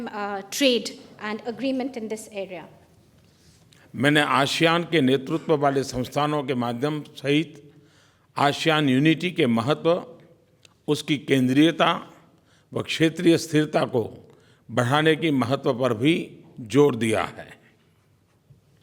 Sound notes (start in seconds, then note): 4.1 PM Modi speaks in Hindi